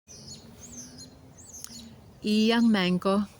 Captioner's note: birds chirping